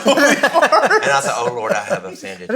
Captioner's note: all laughing